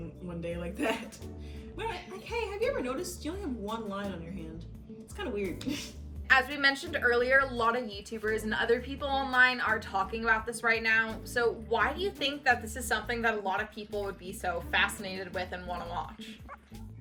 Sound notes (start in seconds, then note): 5.7 chuckles